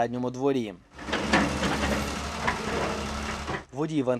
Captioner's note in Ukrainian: звуки екскаватора